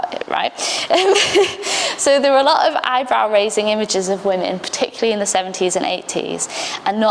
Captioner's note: laughs